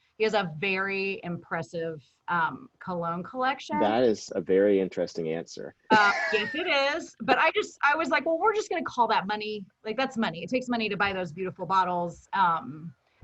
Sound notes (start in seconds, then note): 5.9 chuckles